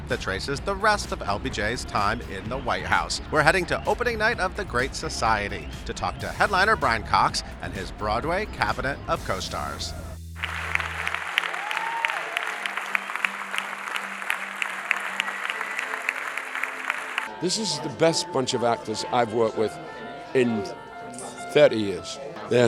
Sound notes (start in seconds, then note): 10.4 audience applauds; 10.4 audience cheers